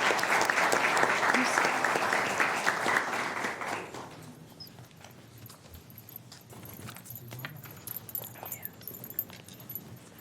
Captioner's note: applause